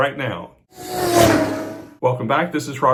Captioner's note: car zooming